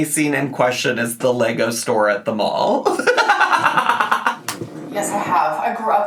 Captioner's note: laughs